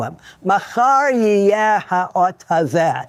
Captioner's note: speaking Hebrew